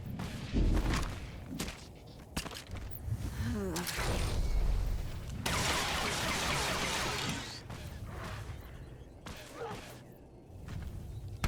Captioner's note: gun firing